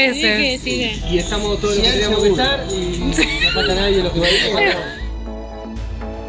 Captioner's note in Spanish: risas